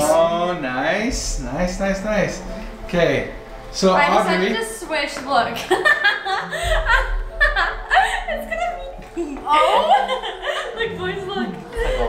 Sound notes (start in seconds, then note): 5.6 laughing